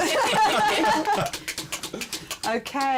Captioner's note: laughter